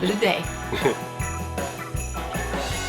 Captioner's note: scoffs; bright upbeat music